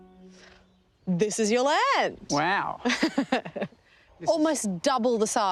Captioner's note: laughs